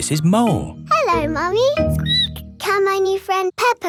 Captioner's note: squeaks